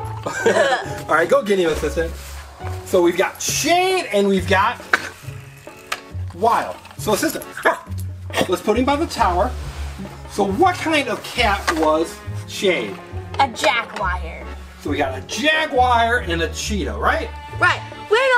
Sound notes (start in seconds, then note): 0.2 both laugh; 7.6 Wiggles barks